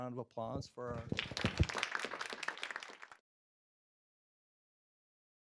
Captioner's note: audience applauding